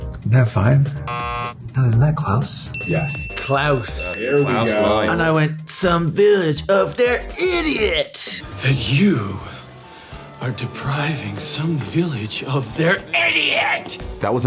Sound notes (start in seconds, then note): 1.0 buzzer